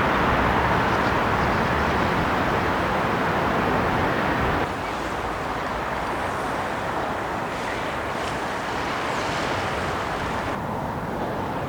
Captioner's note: wind blowing